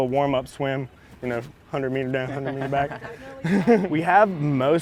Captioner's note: chuckles